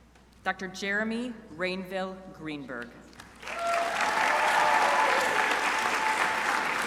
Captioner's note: crowd applauding